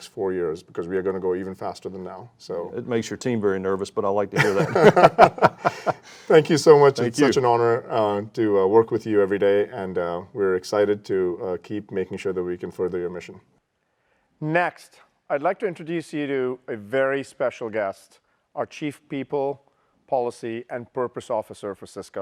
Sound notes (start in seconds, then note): 4.4 laughing